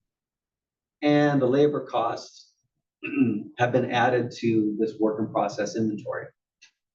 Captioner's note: cough